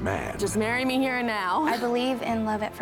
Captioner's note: chuckles